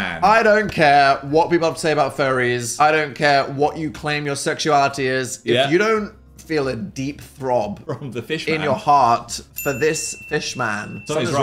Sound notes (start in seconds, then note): 8.0 laughs